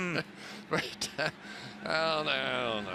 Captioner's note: laughs